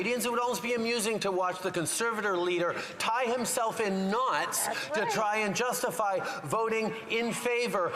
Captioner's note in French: voix de l'interprète